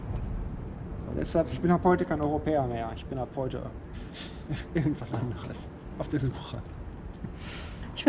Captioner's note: laughing